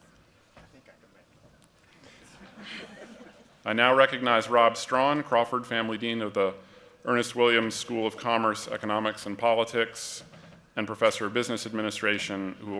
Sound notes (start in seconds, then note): 2.2 laughter